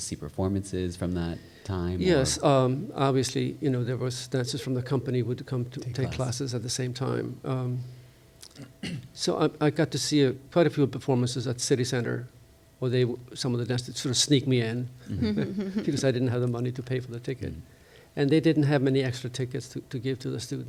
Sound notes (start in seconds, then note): 8.5 clears throat; 15.1 chuckles